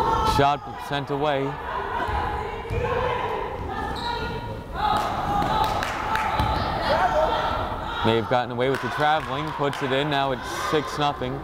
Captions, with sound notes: Shot sent away. (players shouting) May have gotten away with the traveling, puts it in, now it's 6-0.